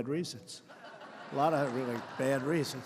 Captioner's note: laughter